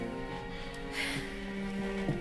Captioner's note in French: Soupir de victoire